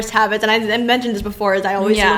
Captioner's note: laughs